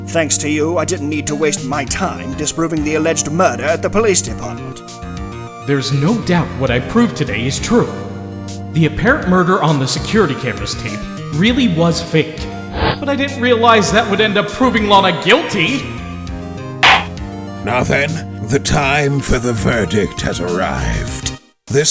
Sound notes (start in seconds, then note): 16.8 gavel slams!